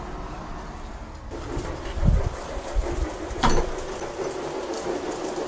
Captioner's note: sounds of a steam train